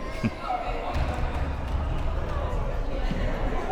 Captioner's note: laughs